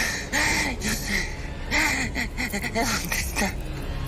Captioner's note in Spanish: Jadeos y sollozos; Sollozos